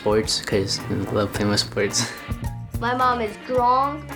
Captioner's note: laughing